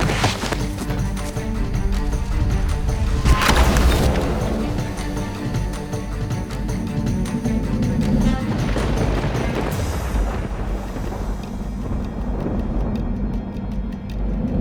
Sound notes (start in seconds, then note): 3.3 gun fires; 5.6 dramatic suspenseful music; 8.0 thunder crashing; 11.5 tense music